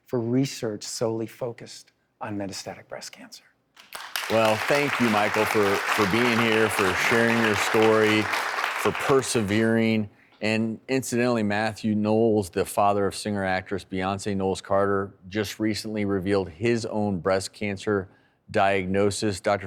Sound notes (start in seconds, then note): 3.8 audience applauding